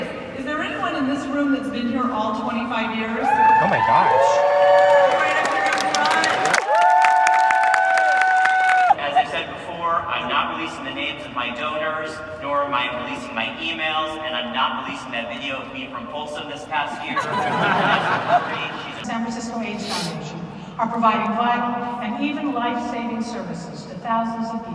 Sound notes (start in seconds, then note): 3.7 applause; 17.0 laughter